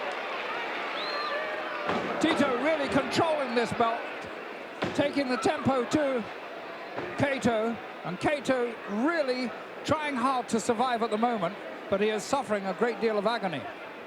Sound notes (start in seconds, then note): 0.6 audience cheering